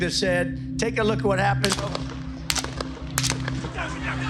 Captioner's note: gun firing